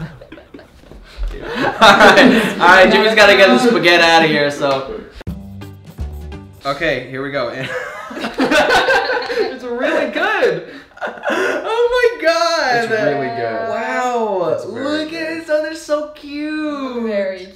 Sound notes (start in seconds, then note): 1.3 laughing; 7.7 laughing